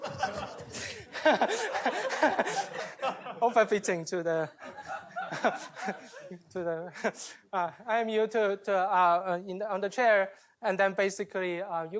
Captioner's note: laughter